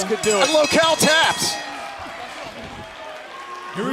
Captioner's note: bell ringing